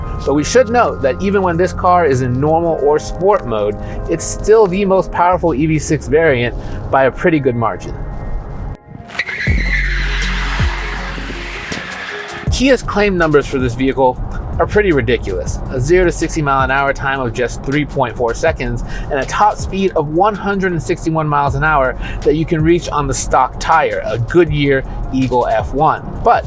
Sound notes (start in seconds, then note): 9.0 tires squealing